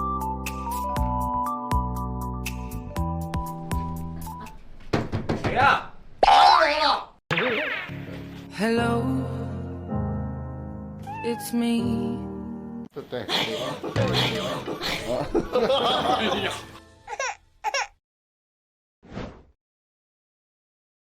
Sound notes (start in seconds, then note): 14.0 Yu'er sighs dramatically